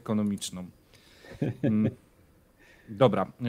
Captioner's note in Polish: śmiech